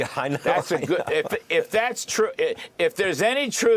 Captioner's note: laughter